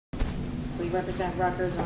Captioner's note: static